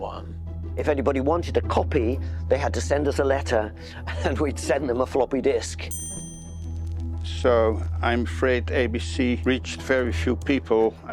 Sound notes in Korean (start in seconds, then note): 5.9 종 소리